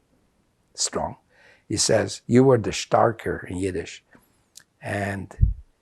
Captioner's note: yiddish